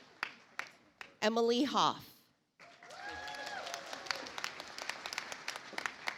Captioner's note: audience applauds